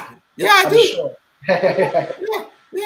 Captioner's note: laughing